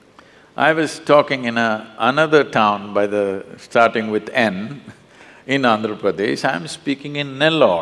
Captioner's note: laughs